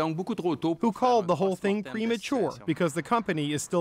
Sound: speaking French

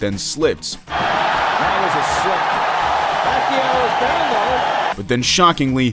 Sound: crowd cheering

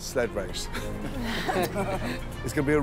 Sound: laughter

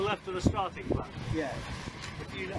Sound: sails flapping

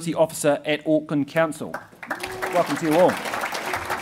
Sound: audience applauding

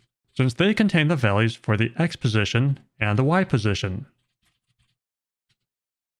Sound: none

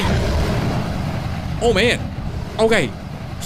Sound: dragon roars

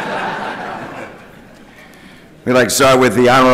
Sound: laughter

